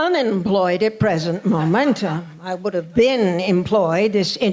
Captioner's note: laughter